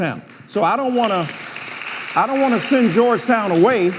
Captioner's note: audience applauding